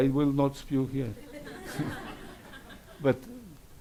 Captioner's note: laughs; audience laughs